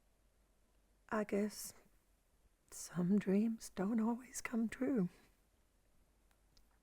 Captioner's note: none